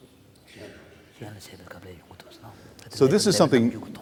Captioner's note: foreign Language